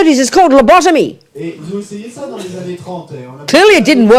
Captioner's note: audience member speaks in French